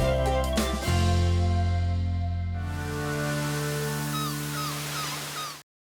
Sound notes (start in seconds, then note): 2.6 waves crashing; 3.2 birds squawking